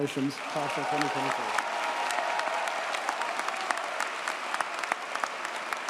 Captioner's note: audience cheers and applauds